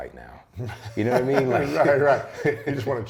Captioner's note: laughs